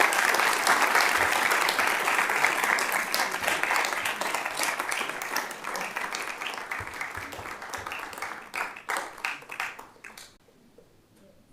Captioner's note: applause